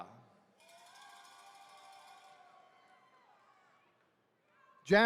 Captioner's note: attendees cheering